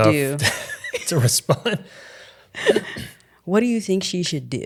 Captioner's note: laughing